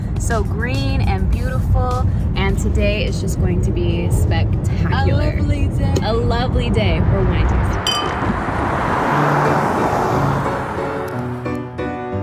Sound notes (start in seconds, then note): 7.8 glasses clinking; 9.6 upbeat music